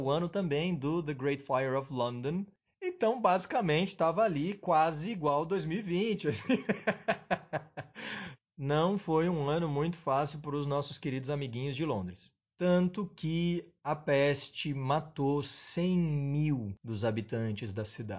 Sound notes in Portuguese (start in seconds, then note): 6.2 risos